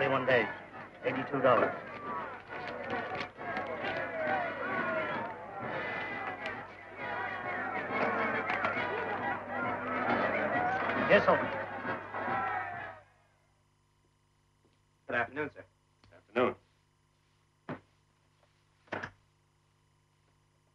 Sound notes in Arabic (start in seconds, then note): 2.9 تستمر الموسيقى المبهجة; 2.9 يستمر هتاف الجمهور